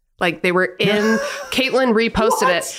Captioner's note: Glenn laughing